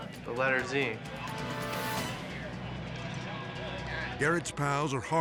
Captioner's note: suspenseful music; people chattering